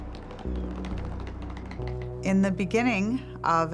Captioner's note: suitcase wheels clacking